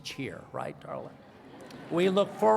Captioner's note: laughter